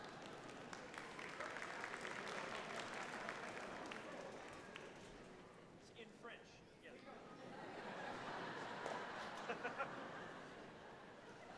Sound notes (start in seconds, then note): 0.0 audience laughs and applauds; 7.4 audience laughs